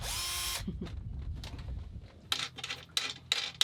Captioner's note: chuckling